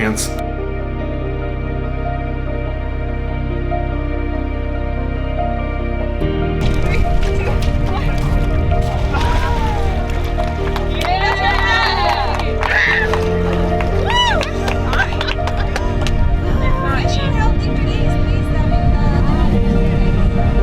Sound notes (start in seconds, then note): 0.2 gentle music; 11.1 people cheering; 17.1 gentle music continues